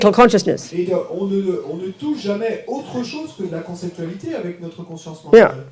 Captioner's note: audience member speaks in French